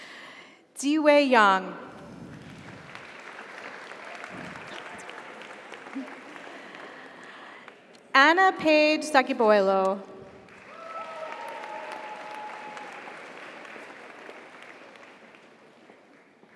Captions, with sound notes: Ziwei Yang. (audience applauds) (audience cheers) Anna Paige Zagieboylo. (audience applauds) (audience cheers)